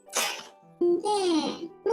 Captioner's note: laughs